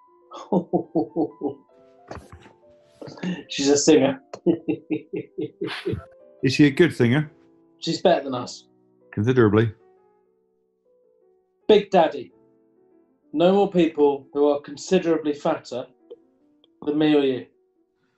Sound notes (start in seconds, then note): 0.1 chortling; 4.2 chuckling